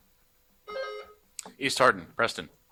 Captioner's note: buzzer buzzing